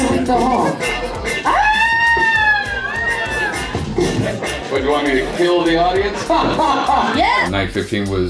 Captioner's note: screams